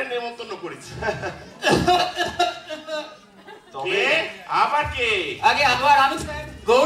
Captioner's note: coughs from background